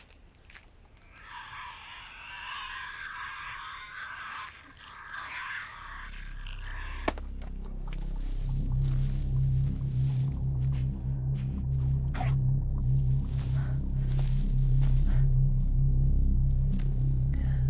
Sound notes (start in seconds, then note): 1.0 Tasmanian devil shrieking; 7.3 ominous music; 12.3 animal grunting